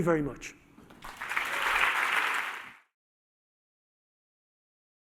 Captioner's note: applause